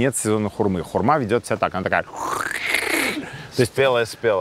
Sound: does squishing sound

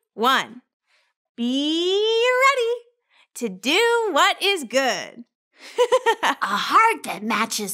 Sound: giggles

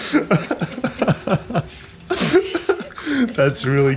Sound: laughing

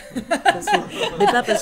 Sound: laughs

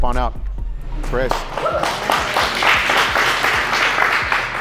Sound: clapping

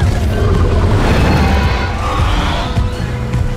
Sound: roars

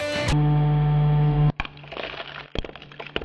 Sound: music stops, slow-mo sound

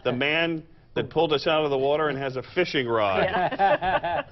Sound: laughter

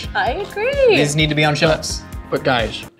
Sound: none

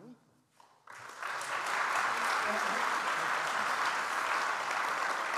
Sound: audience applauds

